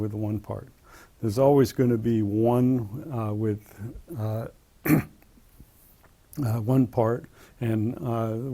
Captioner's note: cough